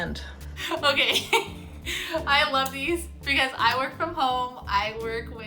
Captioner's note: laughs